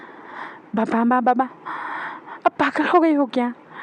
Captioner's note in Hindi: अचानक ज़ोर से सांस लेने की आवाज़